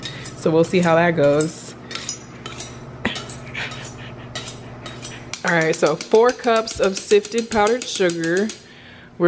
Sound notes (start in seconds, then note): 2.5 sharpening knife